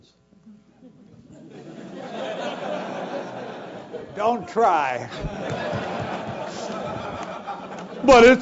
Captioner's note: laugh